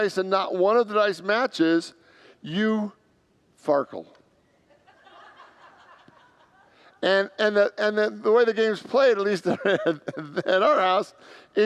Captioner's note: congregants laugh